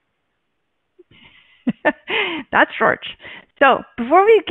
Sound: chuckles

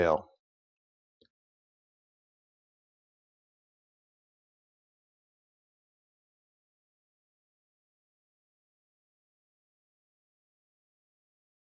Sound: silence

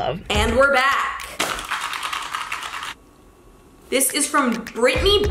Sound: envelope rattles

